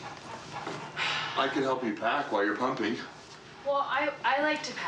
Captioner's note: Suspiro